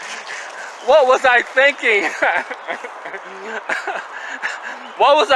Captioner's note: laughing